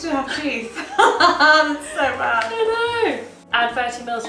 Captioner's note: laughs